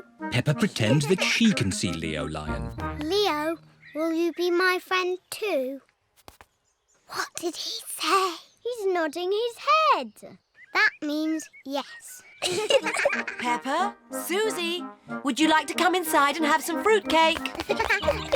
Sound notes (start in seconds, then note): 7.1 whispering; 12.4 both giggle